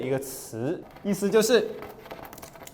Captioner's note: scratching